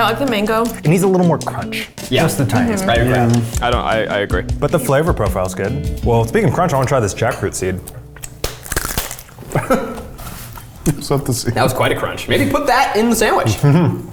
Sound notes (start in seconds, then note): 9.4 laughs